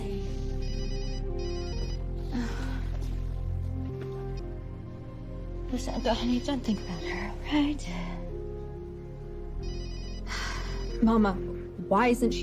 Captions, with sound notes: [cell phone ringing] all right? , [phone continues to ring] Mama, why isn't she in jail?